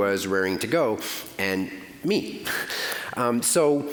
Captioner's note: chuckling